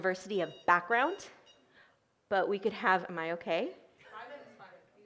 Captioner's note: timer beeps